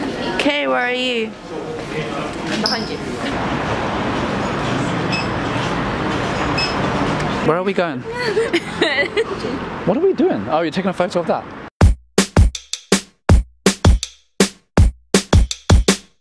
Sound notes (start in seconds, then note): 8.0 giggles